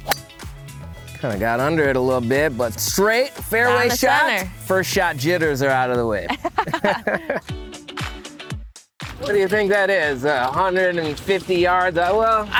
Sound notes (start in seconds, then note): 6.2 laughing; 7.9 upbeat music